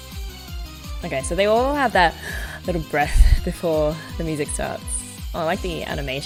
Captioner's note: inhales